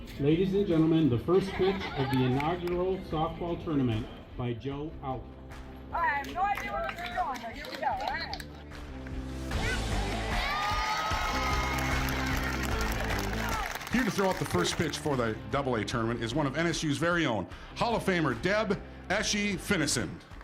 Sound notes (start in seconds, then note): 9.5 crowd cheering